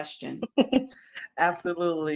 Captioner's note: laughs